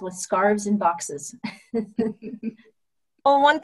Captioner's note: laughter